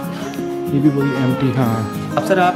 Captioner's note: people Chattering